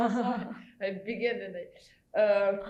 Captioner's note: chuckles